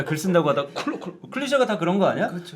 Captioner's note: coughing